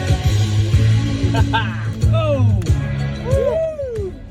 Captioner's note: laughing